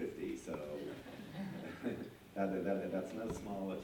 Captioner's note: laughter